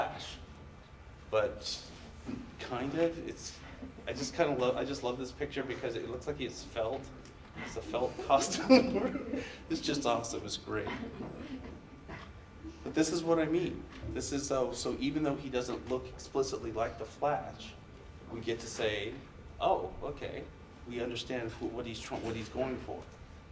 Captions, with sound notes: - The Flash, but kind of, it's, I just kind of love, I just love this picture, because it looks like he's felt, has a felt costume or (laughs), it's just awesome, it's great. (audience laughs) But this is what I mean. So even though he doesn't look explicitly like the Flash, we get to say, oh, okay, we understand what he's going for.